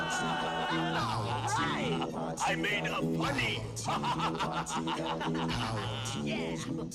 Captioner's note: laughter